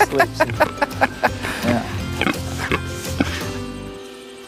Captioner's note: laughing; oinking